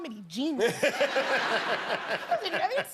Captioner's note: laughter